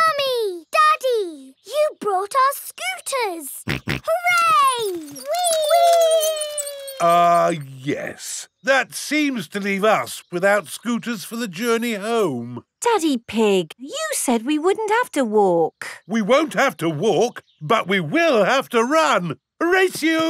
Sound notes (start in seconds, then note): 3.6 snorts